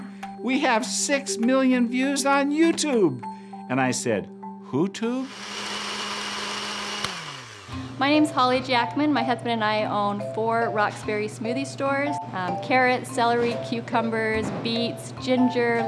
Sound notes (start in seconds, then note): 5.2 blender whirring; 8.0 voiceover